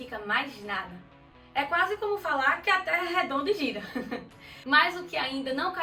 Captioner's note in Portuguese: risos